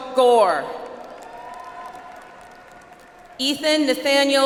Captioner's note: audience applauds